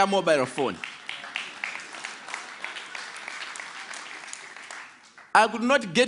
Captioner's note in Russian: Аплодисменты